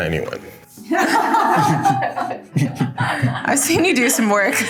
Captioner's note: everyone laughing